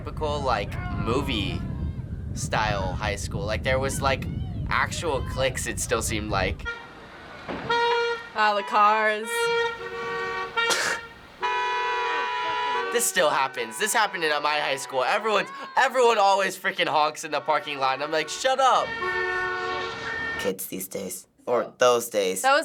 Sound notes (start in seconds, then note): 7.2 car honking; 9.8 laughs